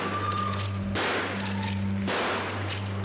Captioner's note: gunshots